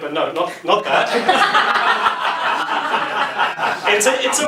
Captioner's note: laughs